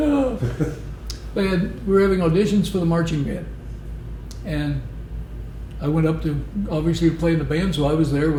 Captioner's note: laughter